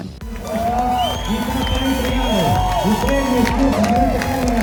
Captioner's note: announcer in Portuguese